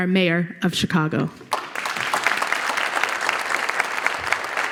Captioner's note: applause